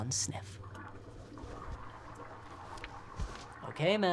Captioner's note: toilet flushing overhead